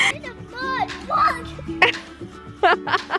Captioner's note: laughter